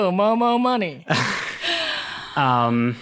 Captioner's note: laughing